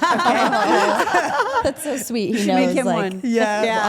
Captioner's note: Steph and Elyse laugh; Rhea laughs